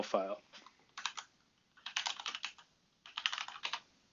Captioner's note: typing